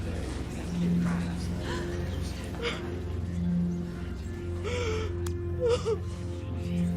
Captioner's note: gasping & sobbing